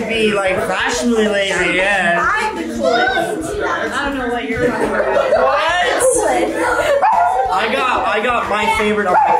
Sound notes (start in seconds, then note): 4.5 group laughs; 4.5 laughs